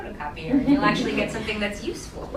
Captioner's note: laughing